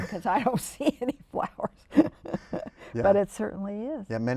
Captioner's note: laughter